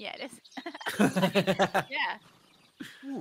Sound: laughs

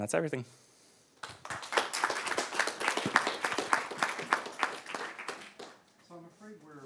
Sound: applause

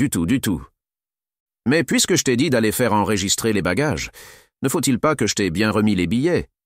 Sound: French

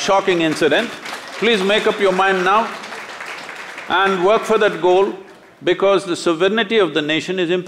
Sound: applause

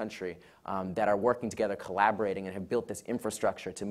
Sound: none

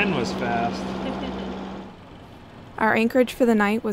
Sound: laughs

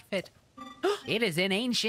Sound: gasp

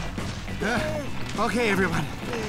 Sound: panting

